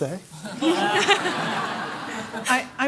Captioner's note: laughter